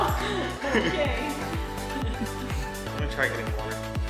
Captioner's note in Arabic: كلاهما يضحك